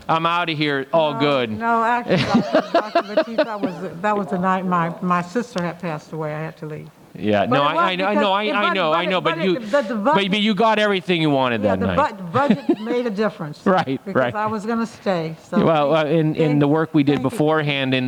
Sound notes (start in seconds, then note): 1.9 speaks faintly; 2.1 laughs loudly; 11.5 laughs